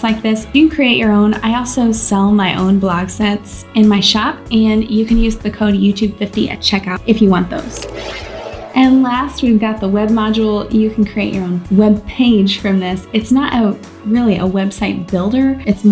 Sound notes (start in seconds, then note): 7.5 air whooshing